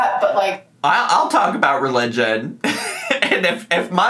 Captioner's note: laughs